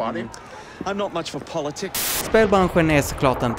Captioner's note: white noise